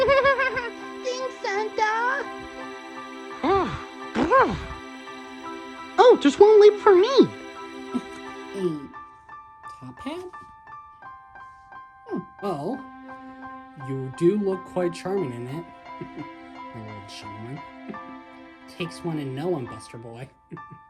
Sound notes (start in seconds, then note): 0.0 giggles; 4.2 Griffin Groans; 16.0 chuckles; 20.5 giggles